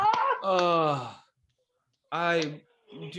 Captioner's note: sighs